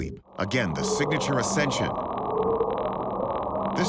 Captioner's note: faint bwoop